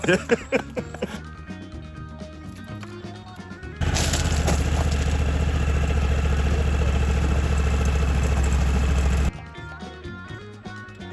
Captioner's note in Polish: śmiech